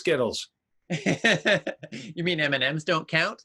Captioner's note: laughing